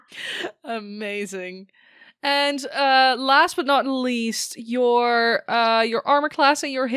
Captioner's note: laughs